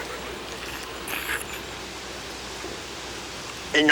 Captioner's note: Bruto slurps